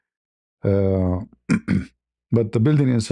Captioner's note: berdehem dan batuk